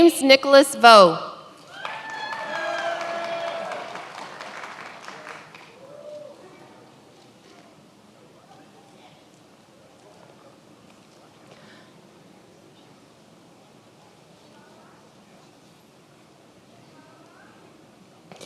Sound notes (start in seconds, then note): 3.7 many applauding